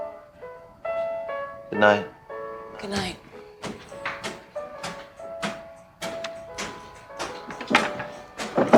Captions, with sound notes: - Good night. - Good night. (footsteps walking)